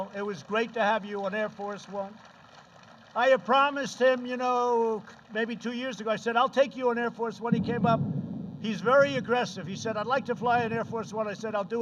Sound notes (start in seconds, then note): 0.0 applause